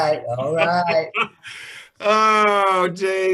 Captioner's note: chuckles